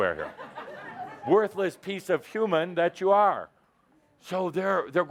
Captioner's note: laughter